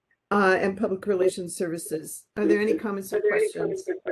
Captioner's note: echoing